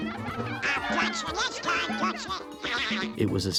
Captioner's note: girls exclaiming; chuckles